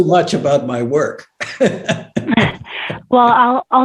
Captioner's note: laughs